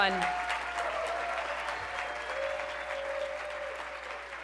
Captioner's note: cheering and applause